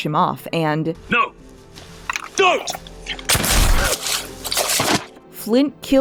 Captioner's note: gunshot